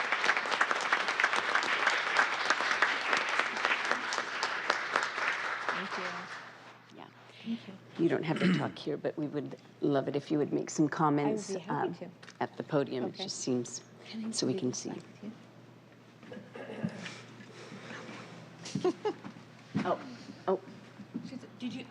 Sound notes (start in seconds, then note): 8.8 applause